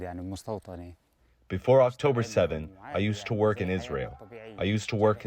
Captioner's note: through translator